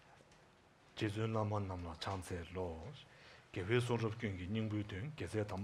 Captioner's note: speaking in Tibetan